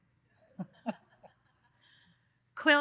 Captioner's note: laughs